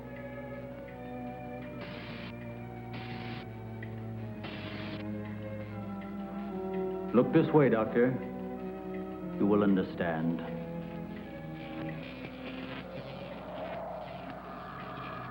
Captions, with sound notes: (electricity crackling) - Look this way, Doctor. You will understand.